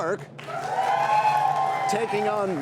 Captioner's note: cheers and applause